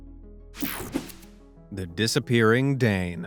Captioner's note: screen buzzing